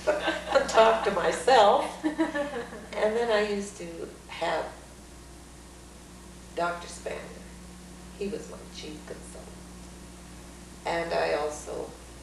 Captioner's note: laughs